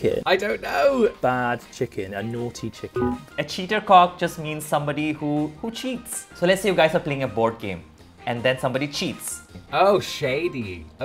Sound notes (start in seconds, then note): 3.0 bell beeping